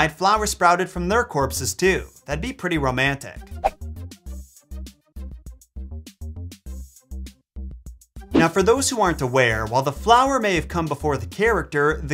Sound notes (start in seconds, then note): 3.4 chill music; 3.6 transition whooshes